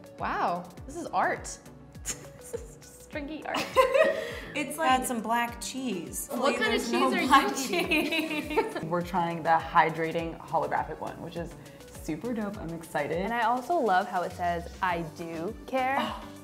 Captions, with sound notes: ^- Wow, this is art. Just stringy art. - It's like I've got some black cheese. - What kind of cheese-- - Only there's no-- - --are you eating? - -- black cheese. (laughing) - We're trying the Hydrating Holographic one, ^which is super dope, I'm excited. - And I also love how it says I dew care.